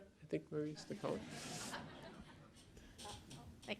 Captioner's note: laughter